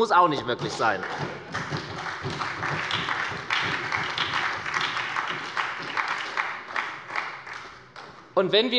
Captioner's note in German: Beifall bei der SPD